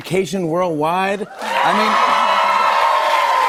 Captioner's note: cheers and applause